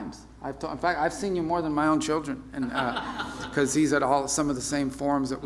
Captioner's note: laughter